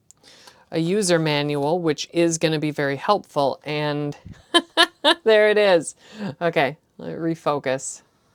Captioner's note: nerdy laughter